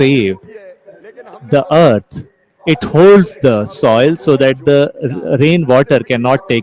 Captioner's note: laughs